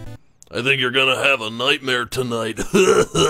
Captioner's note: gravelly voice; laughs evilly